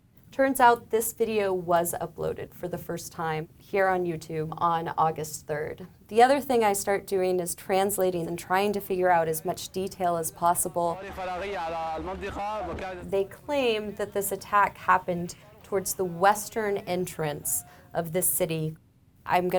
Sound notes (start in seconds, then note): 11.1 speaking in a foreign language